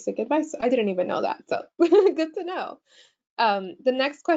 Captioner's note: chuckles